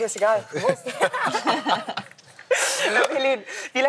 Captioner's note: laughter